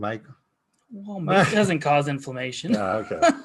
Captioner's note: laughing